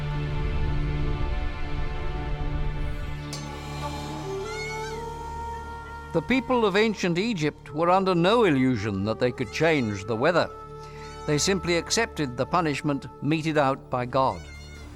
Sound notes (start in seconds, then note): 3.0 gong; 3.1 chimes